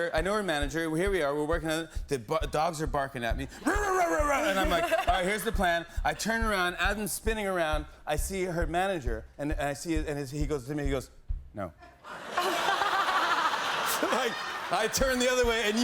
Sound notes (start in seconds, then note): 11.9 laughter